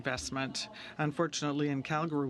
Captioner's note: speaking in french